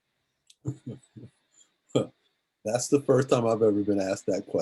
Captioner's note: laughs; laughs